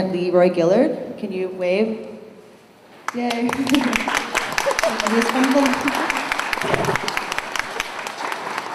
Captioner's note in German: Beifall